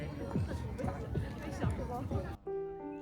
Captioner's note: people chattering